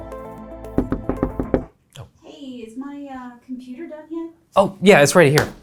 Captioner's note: knocking